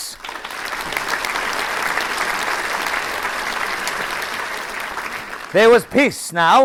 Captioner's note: applause